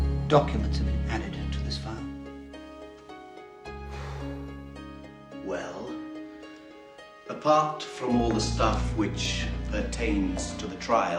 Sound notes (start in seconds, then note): 3.7 exhales